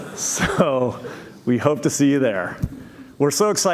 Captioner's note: laughter